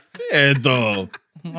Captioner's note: laughing